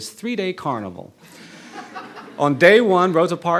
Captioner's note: audience laughing